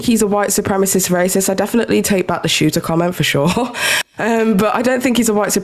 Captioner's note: chuckles